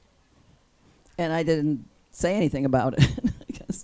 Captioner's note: laughs